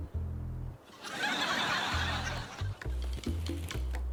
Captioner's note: laughter